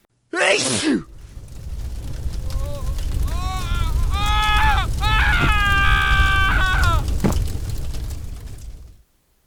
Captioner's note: sneezing; fire crackling; screaming